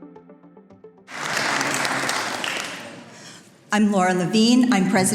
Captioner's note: audience applauds